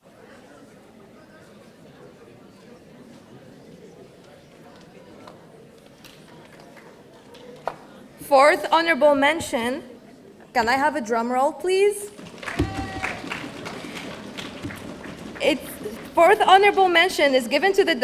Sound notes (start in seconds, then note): 12.1 audience drumming